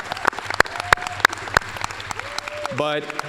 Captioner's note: applause